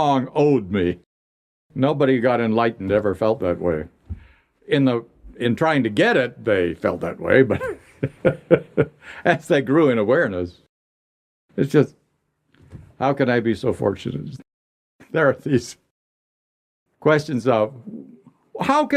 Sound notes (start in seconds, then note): 7.4 laughter